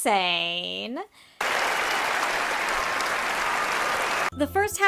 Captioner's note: applause